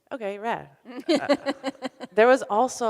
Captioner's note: laughs